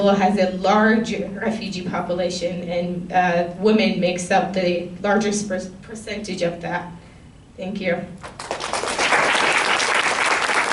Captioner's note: applause